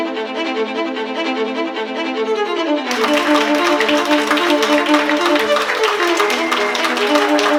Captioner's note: applause